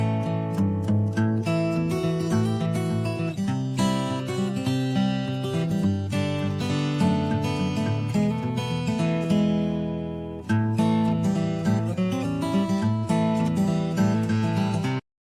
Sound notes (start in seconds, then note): none